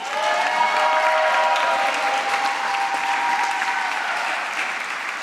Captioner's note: applause